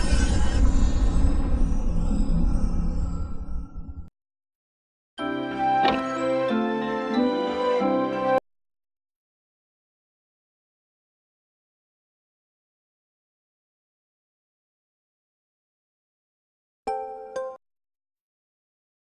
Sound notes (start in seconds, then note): 5.2 wondrous music playing; 8.8 silence